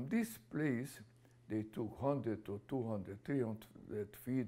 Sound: none

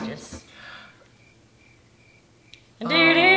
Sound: crickets

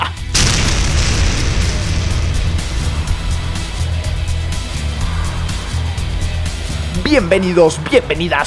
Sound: badass explosion and badass music

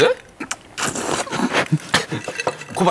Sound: slurp

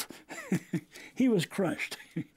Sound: laughter

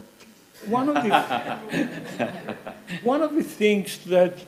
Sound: laughing

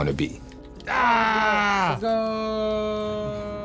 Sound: yells

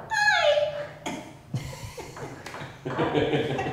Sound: laughing

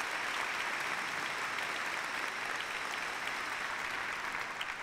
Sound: applause

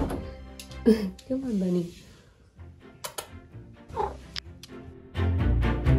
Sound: door swings open; kiss sounds; cat chirp; adventure music

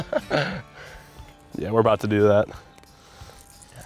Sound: laughter

